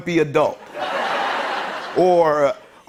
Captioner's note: laughter